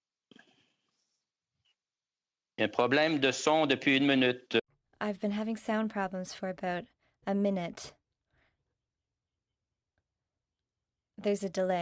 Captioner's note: speaking French